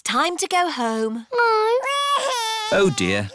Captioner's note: crying